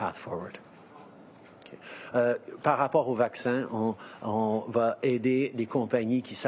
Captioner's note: speaking in French